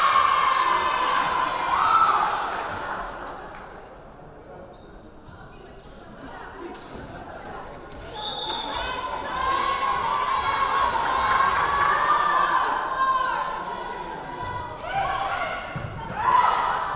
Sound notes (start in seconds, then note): 0.0 cheering; 0.0 clapping; 2.5 cheering; 8.2 whistle blowing; 11.4 yelling